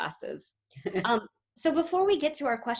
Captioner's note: chuckles